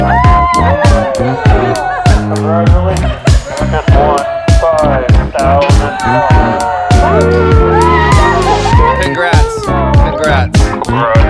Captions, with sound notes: (all cheering) (upbeat music) - Congratulations you just won $5,000. (all cheering) - Congrats, congrats.